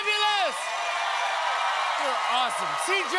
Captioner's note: cheers and applause